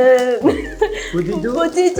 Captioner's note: tries French accent too!